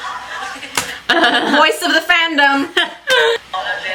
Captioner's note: laughs